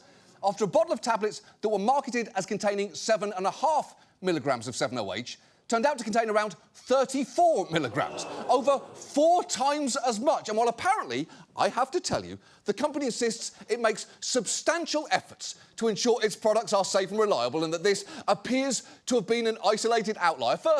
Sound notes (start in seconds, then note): 7.8 audience groans